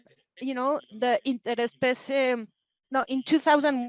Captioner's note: speaking Spanish